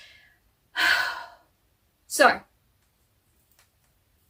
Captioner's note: sighs again